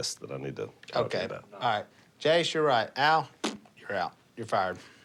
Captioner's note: blows raspberry